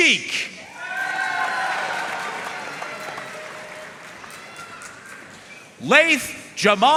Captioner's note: audience cheering and applauding